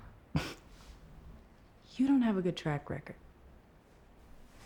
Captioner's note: scoffs